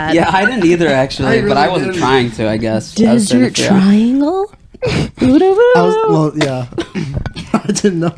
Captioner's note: laughing